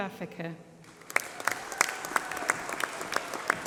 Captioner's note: applause